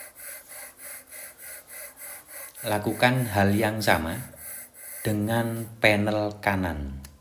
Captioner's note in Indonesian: terengah-engah